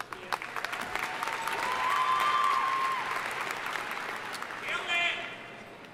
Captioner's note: audience cheering and applauding